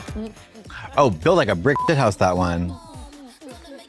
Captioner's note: beep